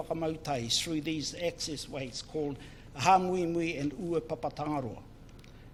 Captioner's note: foreign Language